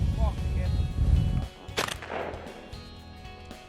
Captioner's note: gun firing